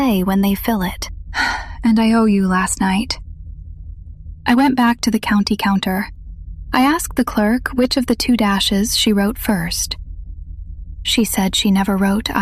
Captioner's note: sighs